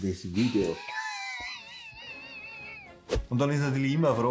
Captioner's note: laughs